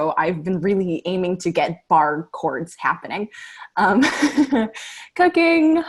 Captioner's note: laughter